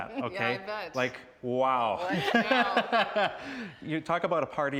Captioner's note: laughing